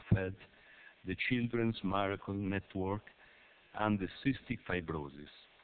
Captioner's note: Italian